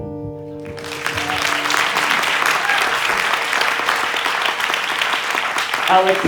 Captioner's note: applause